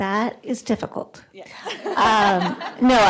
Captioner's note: laughter